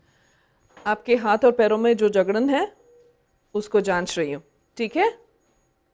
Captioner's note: now speaks in Hindi